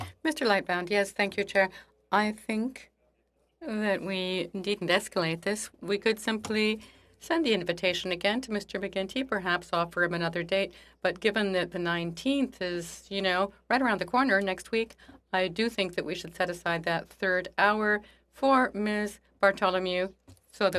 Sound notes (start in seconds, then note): 3.2 speaking in French